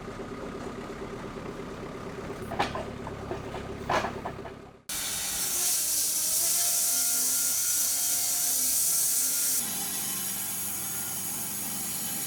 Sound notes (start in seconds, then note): 2.4 metal clanking; 4.9 saw whirring